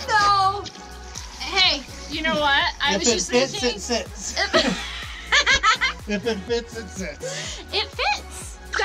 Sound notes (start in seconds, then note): 4.3 laughing